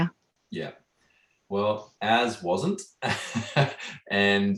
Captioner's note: laughing